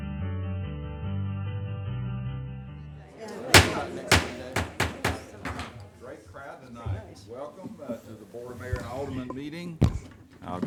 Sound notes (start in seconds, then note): 3.4 gavel beats